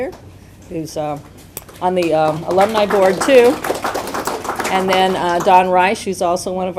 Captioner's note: applause